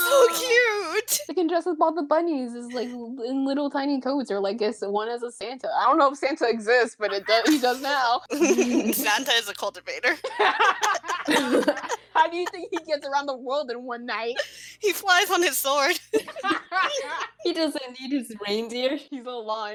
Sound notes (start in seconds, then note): 10.2 laughter